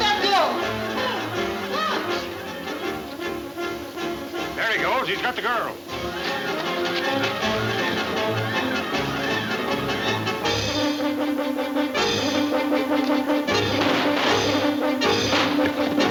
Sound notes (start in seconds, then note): 9.8 exciting music; 13.5 guns shooting